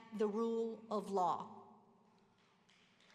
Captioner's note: applause